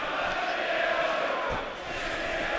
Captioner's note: fans chanting